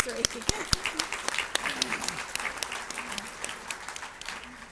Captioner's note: audience claps